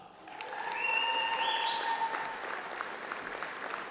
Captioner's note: applause